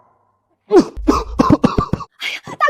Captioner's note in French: Tousse